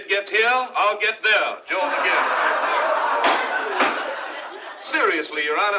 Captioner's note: crowd Laughing